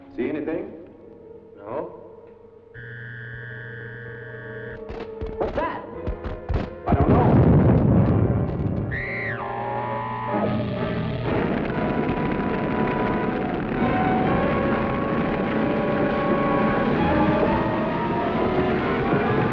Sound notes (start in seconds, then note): 2.8 high-pitched sound; 7.1 crashing sound; 9.2 high-pitched whirring